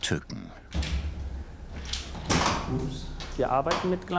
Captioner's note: crack of the ladder